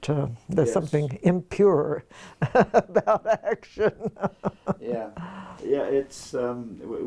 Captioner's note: laugh